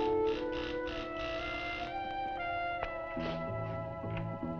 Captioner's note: door buzzing